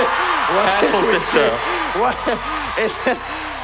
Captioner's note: applause